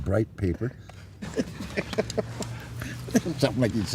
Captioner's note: laughter